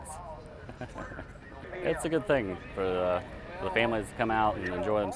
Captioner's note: laughing